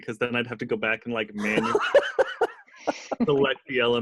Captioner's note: laughter drowns out dialog